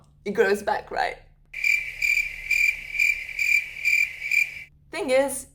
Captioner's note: crickets